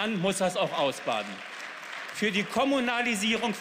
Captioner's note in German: Beifall